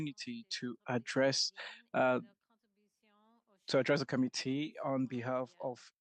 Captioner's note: speaking French